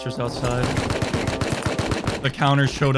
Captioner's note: return gunfire